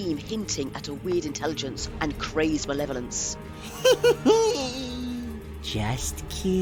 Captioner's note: laughs